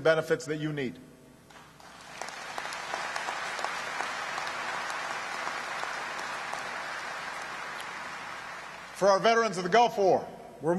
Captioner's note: applause